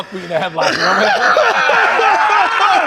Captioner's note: laughter